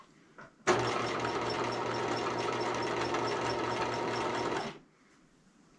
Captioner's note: sewing machine humming